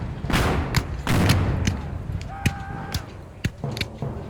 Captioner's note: guns fire